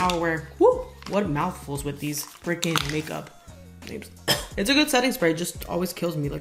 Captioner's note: glam cough